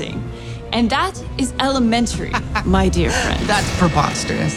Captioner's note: laughs